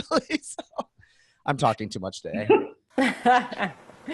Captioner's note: laughs